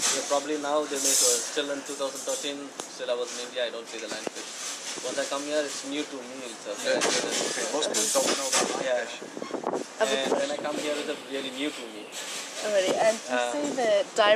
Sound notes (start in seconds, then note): 6.8 wind blows; 9.4 mumbles